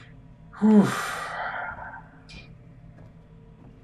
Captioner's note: sighing